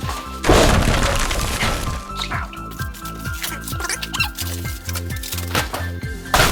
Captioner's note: exaggerated box thudding